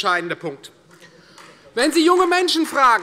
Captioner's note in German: Beifall Freie Demokraten und vereinzelt AfD